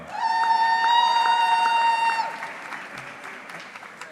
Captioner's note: audience cheering